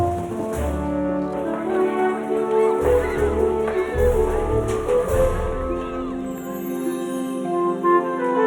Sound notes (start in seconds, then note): 0.9 group chattering